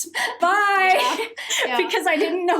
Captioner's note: both laughing